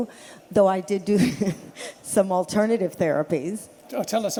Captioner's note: laughs